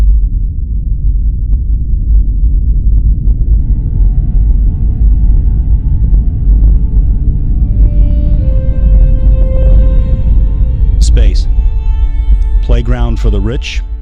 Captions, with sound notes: (low rumble of powerful engines) (theme music plays) Space. Playground for the rich,